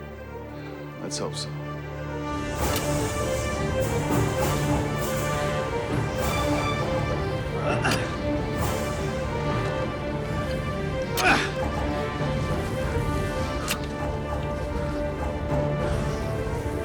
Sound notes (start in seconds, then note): 2.1 dramatic music playing; 7.3 grunting